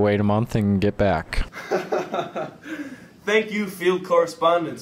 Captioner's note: laughter